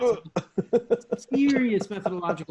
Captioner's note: laughs